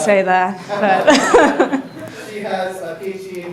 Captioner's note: audience laughing